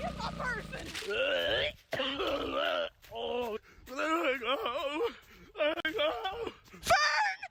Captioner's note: gags